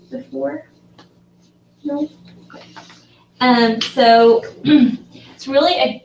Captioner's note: cough